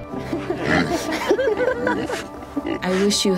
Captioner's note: people laughing; pig grunting